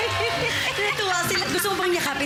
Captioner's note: chuckles